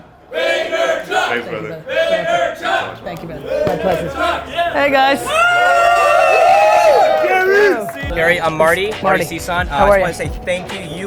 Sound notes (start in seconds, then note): 6.1 crowd cheering